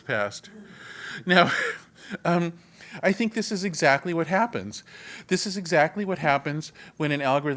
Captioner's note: laugh